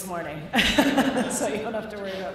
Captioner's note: laughter